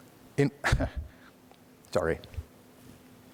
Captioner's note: scoffs